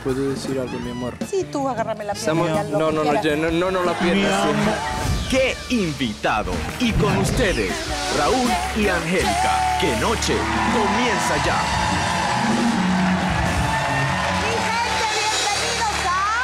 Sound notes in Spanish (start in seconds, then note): 11.3 Aplausos